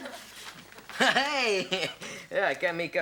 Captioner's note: laughs